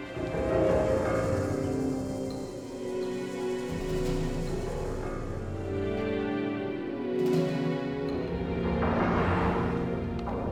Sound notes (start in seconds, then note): none